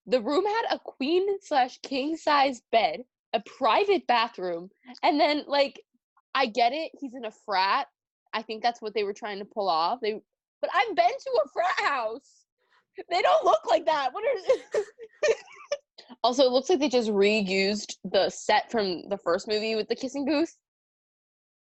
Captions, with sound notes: The room had a queen/king sized bed A private bathroom And then, like- I get it, he's in a frat I think that's what they were trying to pull off. They- But I've been to a frat house! They don't look like that! What are- [Struggled laughing] Also, it looks like they just reused the set from the first movie with the kissing booth